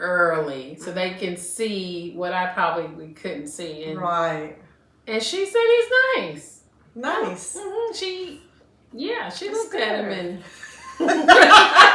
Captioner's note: laughter